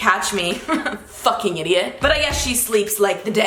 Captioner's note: chuckles